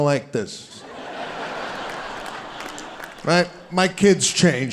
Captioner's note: audience laughing